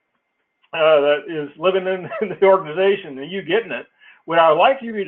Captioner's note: laugh